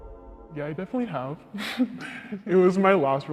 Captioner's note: chuckles